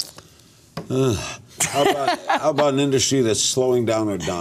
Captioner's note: grunts